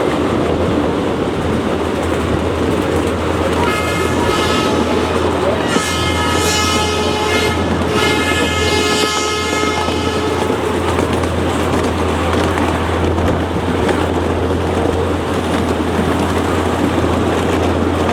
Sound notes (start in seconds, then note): 2.7 train horn blowing